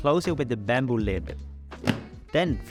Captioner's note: snap